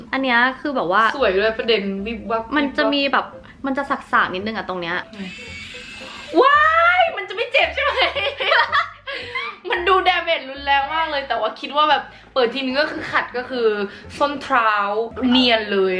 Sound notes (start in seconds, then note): 6.0 scream; 7.8 laughing